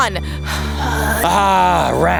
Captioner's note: heavy breathing